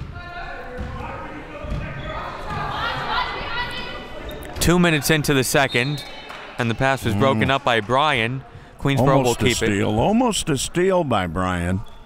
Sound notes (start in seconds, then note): 0.2 crowd murmuring; 5.6 referee blows whistle